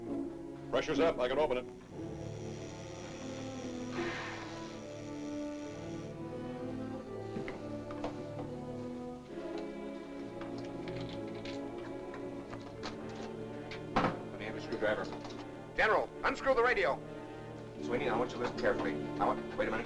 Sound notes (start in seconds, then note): 1.7 buzzing sound; 4.0 hatch hisses; 5.4 buzzing sound; 7.0 ominous music